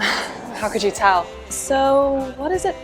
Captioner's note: chuckles